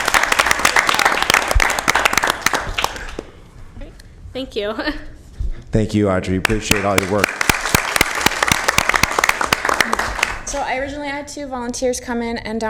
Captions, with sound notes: >> WHERE ARE YOUR PARENTS? ALL RIGHT! [ APPLAUSE ] >> THANK YOU. >> THANK YOU AUDREY, WE